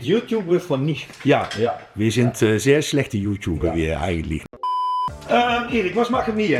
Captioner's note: beep